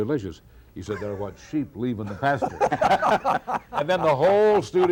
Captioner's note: laughs